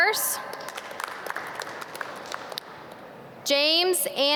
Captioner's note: audience clap